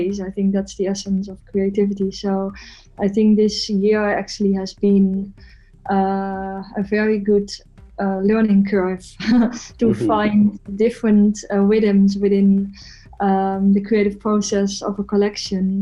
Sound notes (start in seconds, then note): 9.3 chuckles